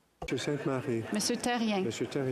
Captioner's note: speaking French